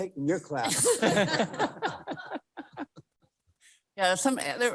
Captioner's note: panel giggling